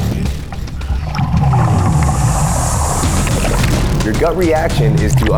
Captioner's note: water rushing